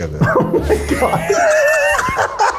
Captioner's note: laugh